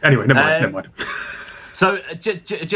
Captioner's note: laughs